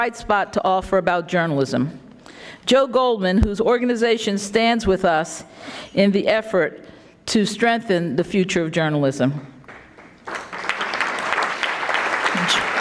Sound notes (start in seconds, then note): 9.6 audience clapping